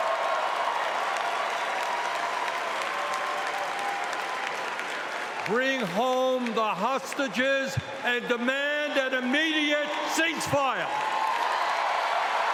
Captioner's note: cheering